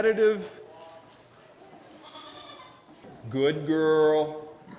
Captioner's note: sheep bleats